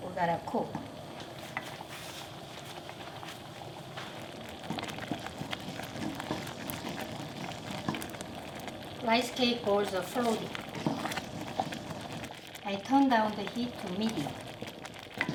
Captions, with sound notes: We have to cook. (bubbling) Rice cake balls are floating. I turned down the heat to medium.